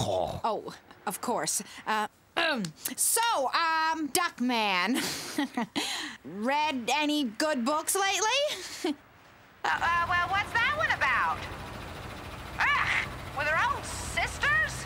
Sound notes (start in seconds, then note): 4.9 laughs; 10.0 on phone